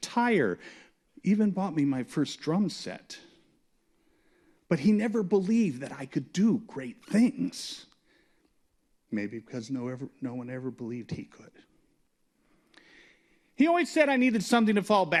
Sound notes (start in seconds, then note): none